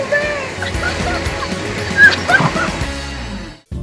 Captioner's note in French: rires